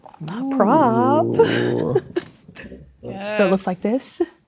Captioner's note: laughing